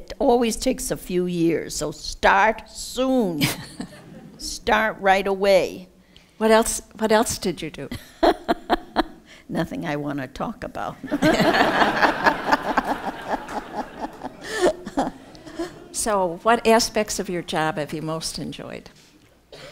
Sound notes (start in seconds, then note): 11.1 laughs; 14.7 laughter